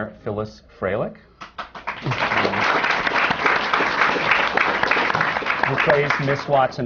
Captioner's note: applause